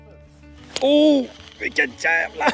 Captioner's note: animal noises